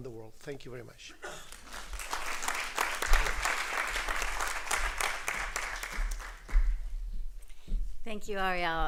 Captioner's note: applause